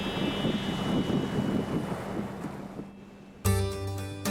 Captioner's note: wind howls; lighthearted music